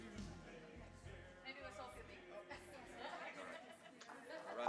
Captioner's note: crowd chattering